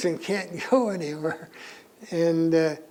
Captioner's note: laughs